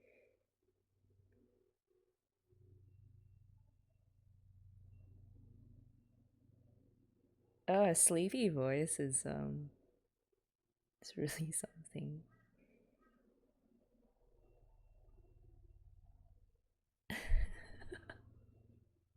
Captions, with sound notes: Oh, her sleepy voice is um... It's really something. [laughs]